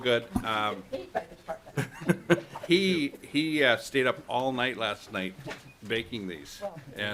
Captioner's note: laughter